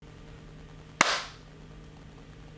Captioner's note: clap